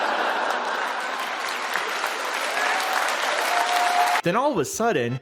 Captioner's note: audience laughs and cheers